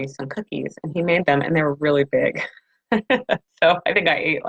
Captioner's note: laughs